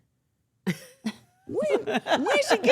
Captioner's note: laughing